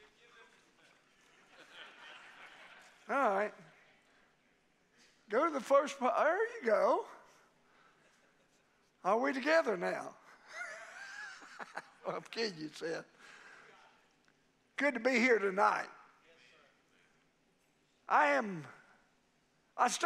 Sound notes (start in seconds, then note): 1.9 congregation laughing; 10.4 laughing